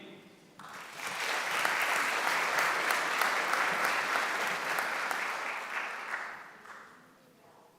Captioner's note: applause